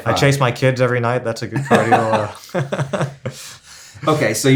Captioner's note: laughs